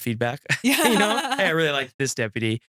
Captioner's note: laughs